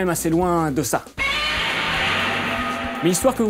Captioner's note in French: cri de Godzilla